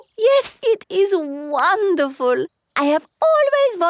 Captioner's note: laughs